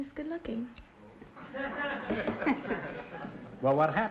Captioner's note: audience chuckling